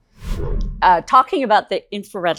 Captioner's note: air whooshing